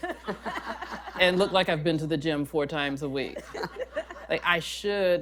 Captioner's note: laughter; laughter